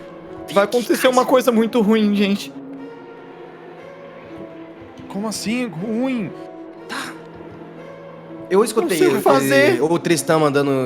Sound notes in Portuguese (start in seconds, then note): 7.0 sussurra